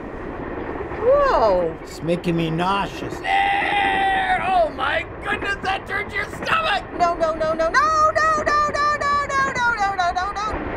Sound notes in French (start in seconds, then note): 3.2 crie